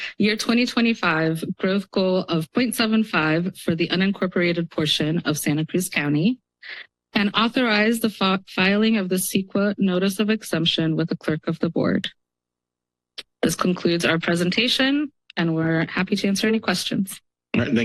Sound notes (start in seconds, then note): 13.2 pause